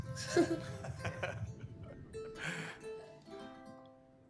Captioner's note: interviewer chuckling